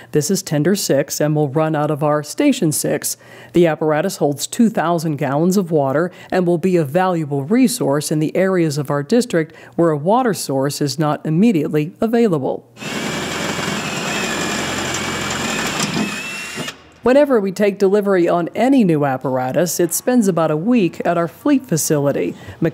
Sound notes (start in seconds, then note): 12.8 drill whirring